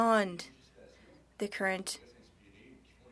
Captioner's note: speaking French